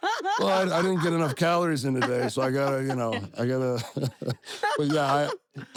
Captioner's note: laugh